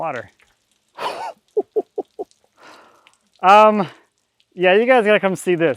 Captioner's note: laughing